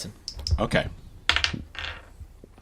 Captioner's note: dice roll